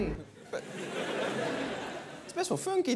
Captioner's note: laughter